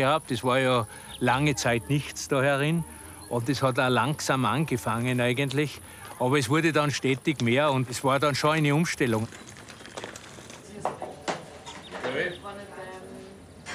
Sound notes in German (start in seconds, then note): 12.0 Stimmengewirr